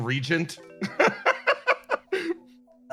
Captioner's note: laugh